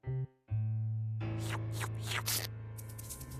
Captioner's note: slurping